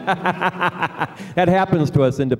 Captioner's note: laughter